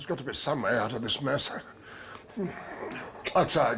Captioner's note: inhales deeply